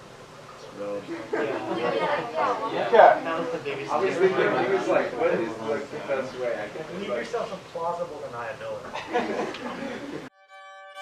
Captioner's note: general chatter...something..."plausible deniability"